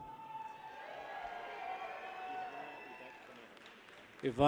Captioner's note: people cheer